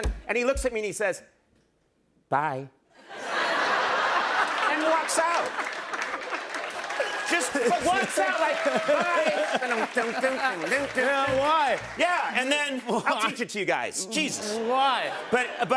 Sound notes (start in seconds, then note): 3.0 laughter; 9.6 imitating electric guitar